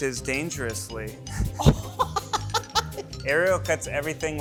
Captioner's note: laughs